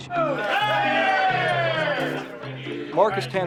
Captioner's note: pilots chattering indistinctly